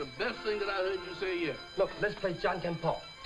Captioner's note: speaking in foreign language